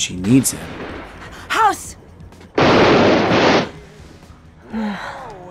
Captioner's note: gunshots; sighs